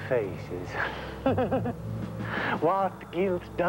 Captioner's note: chuckles